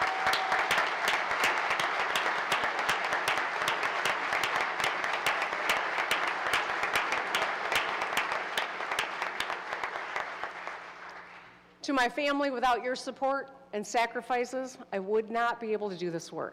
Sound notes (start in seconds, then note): 0.0 applause